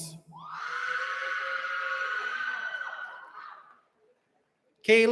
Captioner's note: cheering